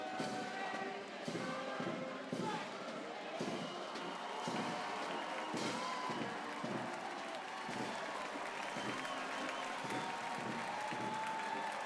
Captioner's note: cheers and applause